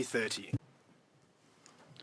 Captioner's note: speaking French